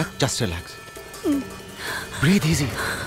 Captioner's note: Moaning continues